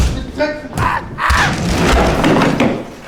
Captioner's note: screams of pain